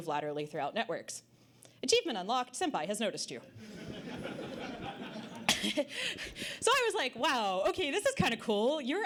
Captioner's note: audience Laughter